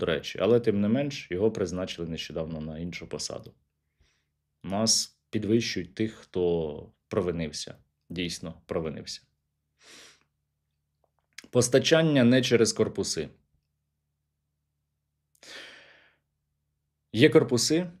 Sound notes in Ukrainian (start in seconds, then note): 9.8 сопіння